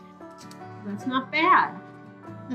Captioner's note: camera shutter clicks